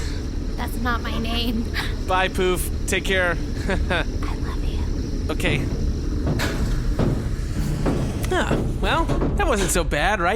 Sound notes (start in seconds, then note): 4.9 whispering; 8.4 Bargie’s hatch closes